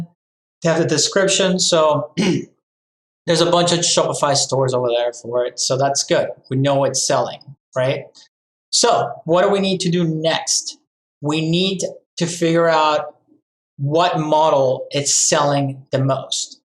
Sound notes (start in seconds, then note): 2.0 clears throat